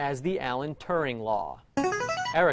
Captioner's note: ringer